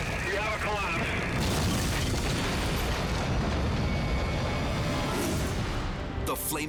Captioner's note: fire roaring; steeple crashing